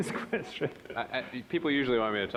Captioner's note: all laughing